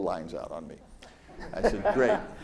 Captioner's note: audience laughs